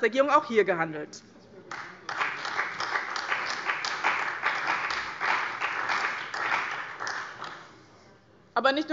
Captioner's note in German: Beifall bei dem BÜNDNIS 90/DIE GRÜNEN und der CDU